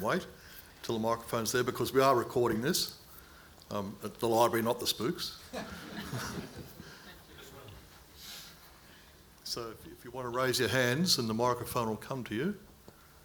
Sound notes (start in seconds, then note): 5.5 audience chuckling